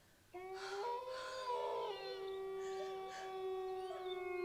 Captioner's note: wolves howl and whimper